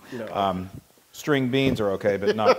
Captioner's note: laugh